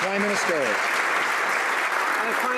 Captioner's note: some Applause